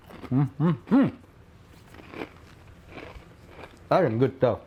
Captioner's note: hums in contentment